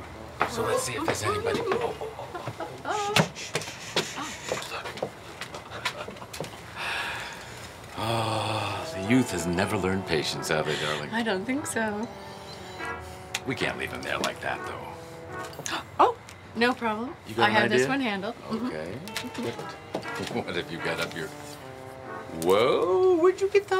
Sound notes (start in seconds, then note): 5.6 Obama chuckles